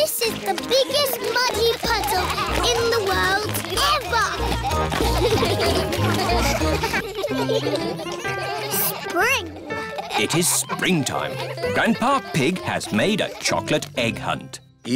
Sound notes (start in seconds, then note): 4.5 all laughing; 4.6 all giggling; 6.9 giggling